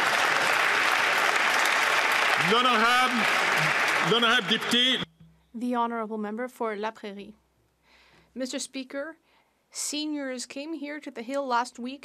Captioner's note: some Applause